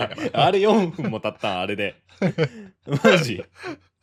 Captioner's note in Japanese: 笑い